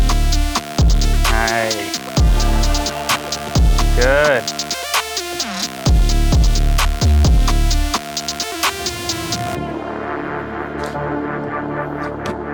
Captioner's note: engine Revving